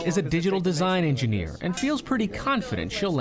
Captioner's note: voice-over